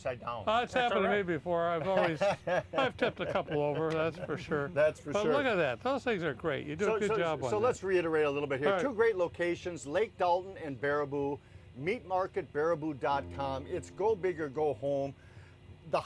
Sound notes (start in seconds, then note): 1.8 laughing